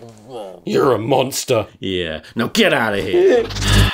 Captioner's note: pathetic whimper